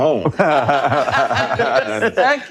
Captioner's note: all laughing